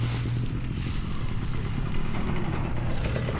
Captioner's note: engine revving